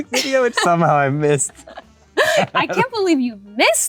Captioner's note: laughs